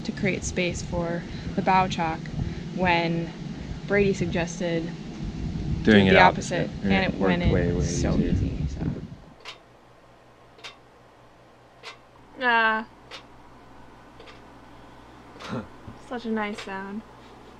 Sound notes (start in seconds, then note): 10.5 ticking; 15.4 chuckles